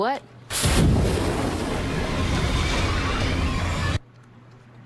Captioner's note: flames erupt; Demogorgon yells